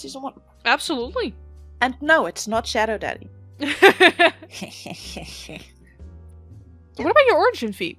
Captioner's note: laughs